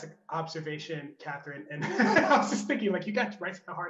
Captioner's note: laughs